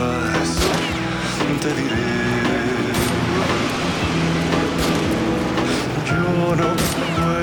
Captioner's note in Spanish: Disparos